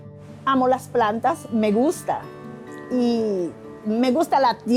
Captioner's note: woman speaks Spanish